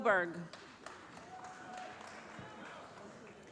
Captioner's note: applause